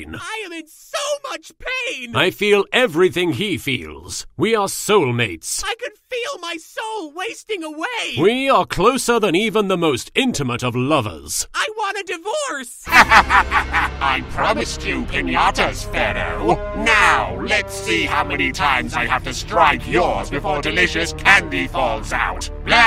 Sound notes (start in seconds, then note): 12.8 Melvin laughs